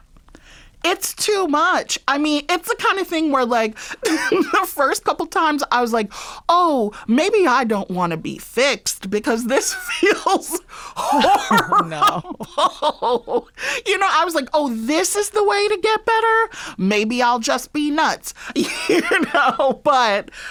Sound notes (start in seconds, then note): 11.0 laughter